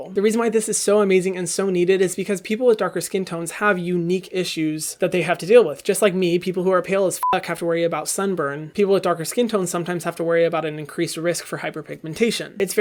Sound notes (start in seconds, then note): 7.2 beep